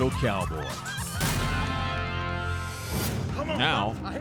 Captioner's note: cheering, applause